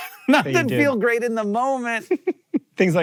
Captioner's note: laughs